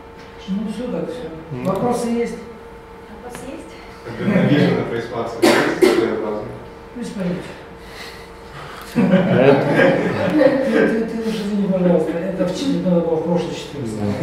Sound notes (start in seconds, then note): 2.6 discussion in the audience